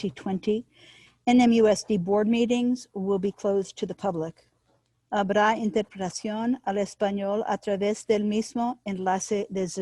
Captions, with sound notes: NMUSD Board meetings will be closed to the public. (speaking in Spanish)